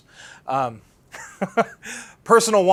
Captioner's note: laughs